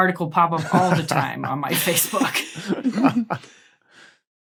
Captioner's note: group giggling